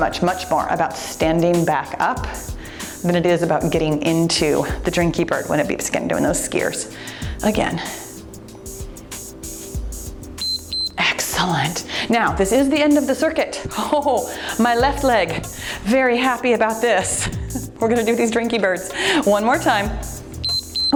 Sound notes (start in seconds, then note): 10.4 timer beeps